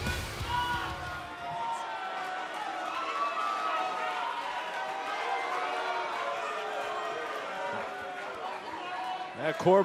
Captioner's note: cheers and applause